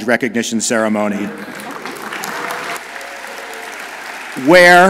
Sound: audience applauds

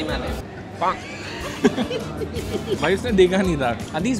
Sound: laughing

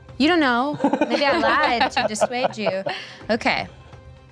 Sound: laughing

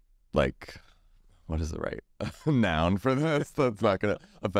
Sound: laughs

